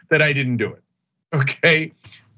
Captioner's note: laugh